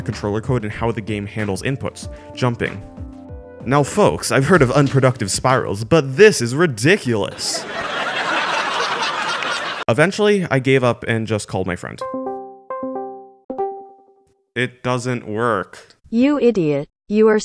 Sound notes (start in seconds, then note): 7.2 laugh track no. 3